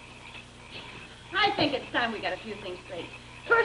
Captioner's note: speaks German